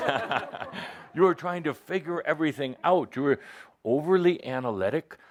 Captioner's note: laughter